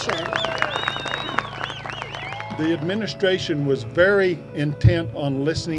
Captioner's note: applause